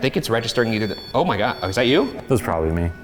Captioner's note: REM-POD beeps